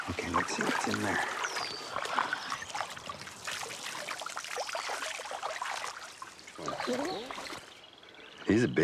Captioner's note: water splashing